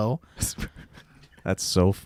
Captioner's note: laughing